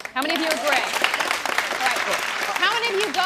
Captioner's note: women in audience clap